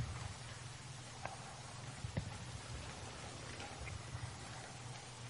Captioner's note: water falling